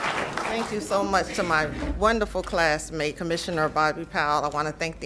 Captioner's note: applause